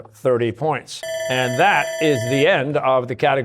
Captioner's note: bell ringing